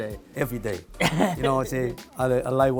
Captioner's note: laughing